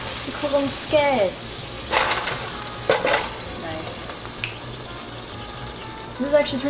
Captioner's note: snaps